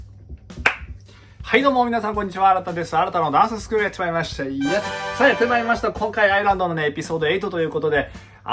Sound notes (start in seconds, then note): 0.5 clap